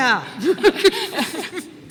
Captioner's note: laughter